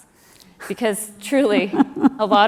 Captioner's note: laugh